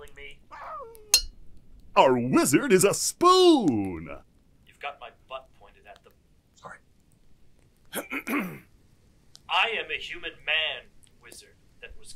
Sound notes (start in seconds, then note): 0.5 Magic Spoon screams; 1.1 metal thunk; 7.9 Magic Spoon clears his throat